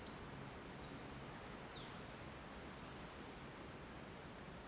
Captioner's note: birds tweeting